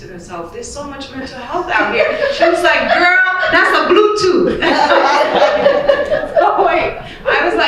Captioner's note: laughing; laughter